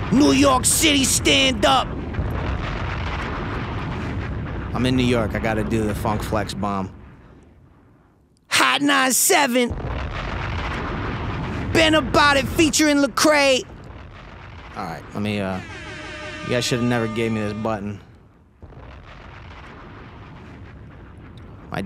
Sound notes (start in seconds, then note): 3.1 bomb explodes; 9.6 bomb explodes; 15.5 air horn; 18.6 bomb explodes